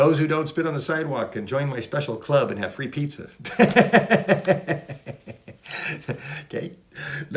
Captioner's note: laughs